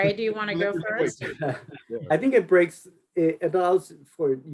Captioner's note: laughs